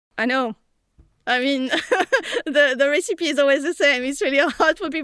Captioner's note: laughs